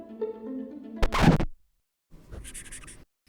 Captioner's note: instrumental music; record scratch; marker squeaking slightly while writing